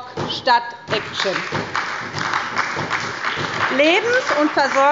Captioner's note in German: Beifall bei der SPD